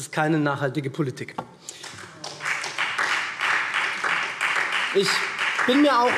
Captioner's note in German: Beifall SPD